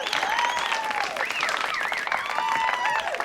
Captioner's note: whistling; applause, Cheering